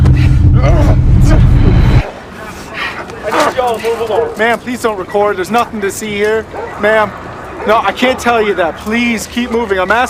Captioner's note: man struggling